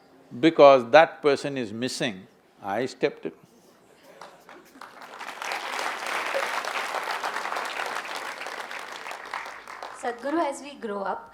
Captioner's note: applause